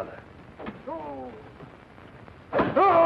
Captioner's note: groaning